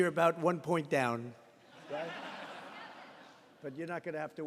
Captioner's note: laughter